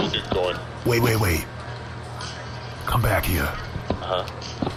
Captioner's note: whispering